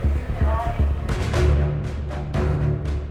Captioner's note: chatter